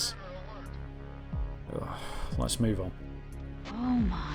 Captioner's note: groans